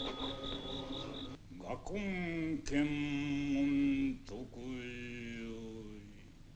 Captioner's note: chanting in foreign language